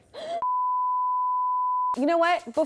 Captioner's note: electronic beeping